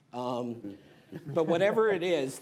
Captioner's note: laughter